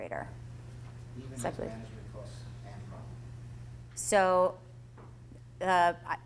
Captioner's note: voiceover